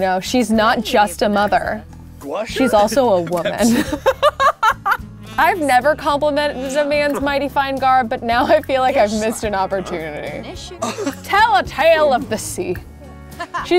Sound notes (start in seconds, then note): 2.6 laughs